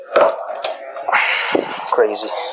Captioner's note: sigh